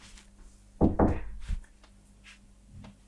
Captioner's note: knocking on door